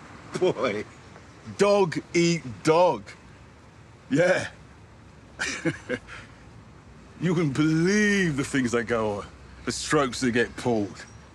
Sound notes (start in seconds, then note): 0.3 he laughs; 5.4 he chuckles